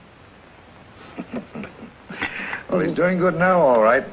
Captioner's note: Red chuckling